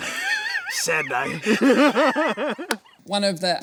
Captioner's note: laughing